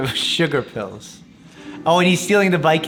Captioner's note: laughing